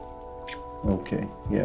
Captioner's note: lips smack